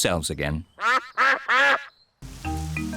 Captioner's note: duck quacks